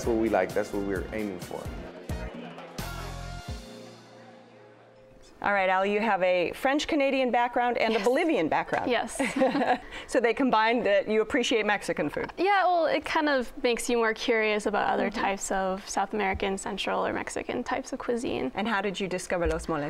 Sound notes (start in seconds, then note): 9.2 laughs